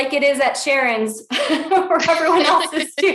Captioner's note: laughs